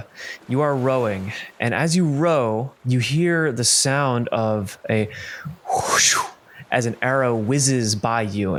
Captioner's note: whooshing sound